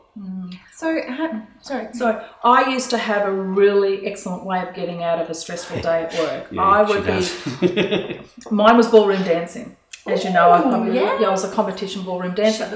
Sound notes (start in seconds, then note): 5.5 laughs